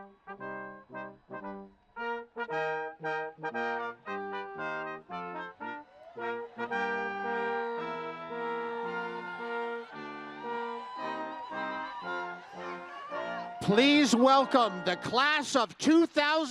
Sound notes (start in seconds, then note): 6.4 audience cheering